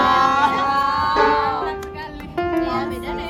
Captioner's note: applouse